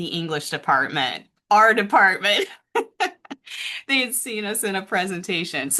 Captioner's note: laughs